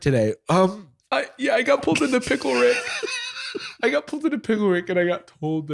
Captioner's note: tearfully